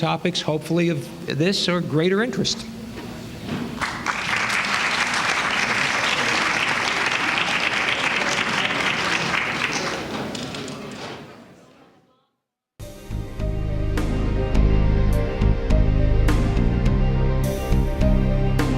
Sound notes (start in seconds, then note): 3.7 applause; 12.9 closing music